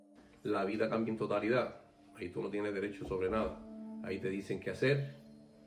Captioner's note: speaking foreign language